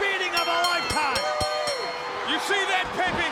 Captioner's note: bell ringing